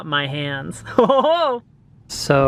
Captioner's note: laughs